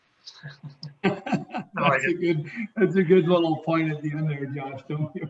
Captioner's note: laughing